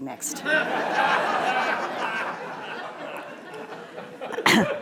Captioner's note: laughter